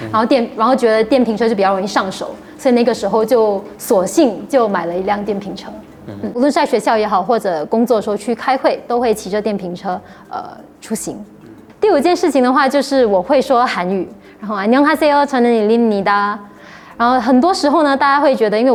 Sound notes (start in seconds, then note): 14.4 Korean